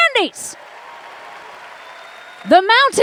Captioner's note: applause